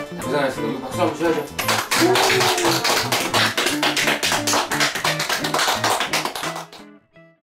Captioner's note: clap Clap